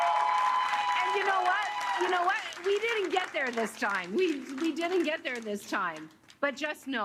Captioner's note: cheers and Applause